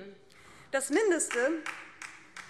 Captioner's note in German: Beifall DIE LINKE